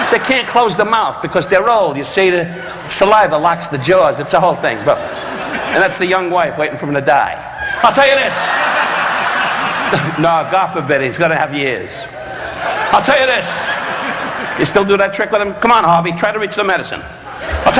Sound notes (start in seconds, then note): 8.9 audience laughing; 10.0 Don chuckling